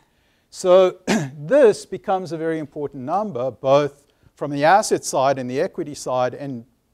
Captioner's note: cough